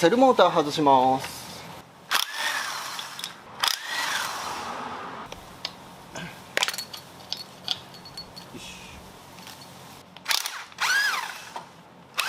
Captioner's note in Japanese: 作業音